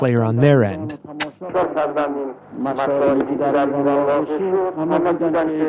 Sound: Speaking Farsi

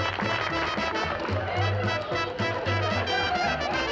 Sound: laughter

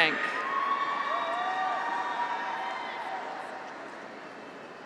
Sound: graduates cheer

